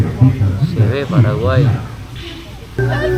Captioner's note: Spanish